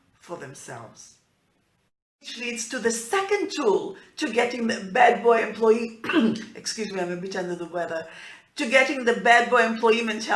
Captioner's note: clearing throat